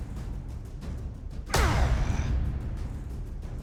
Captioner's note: grunting